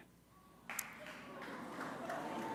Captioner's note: applause